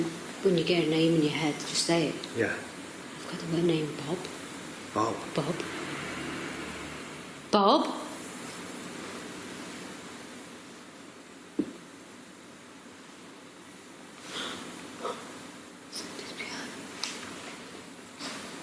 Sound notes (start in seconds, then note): 14.9 gasping